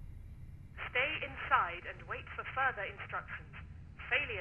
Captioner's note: intercom